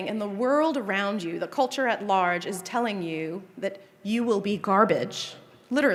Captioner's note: none